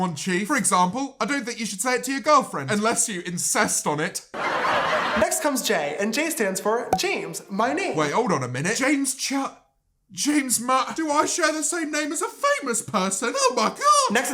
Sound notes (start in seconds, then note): 4.3 laugh track